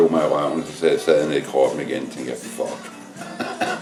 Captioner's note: chuckles